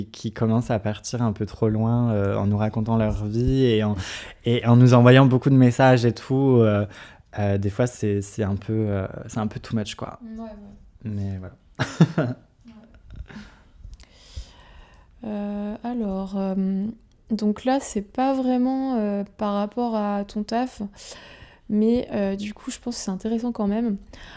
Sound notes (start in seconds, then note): 11.8 laughs